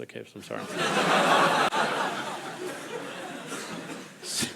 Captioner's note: crowd laughing